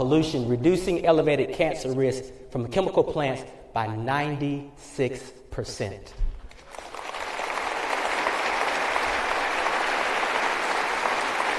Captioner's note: applause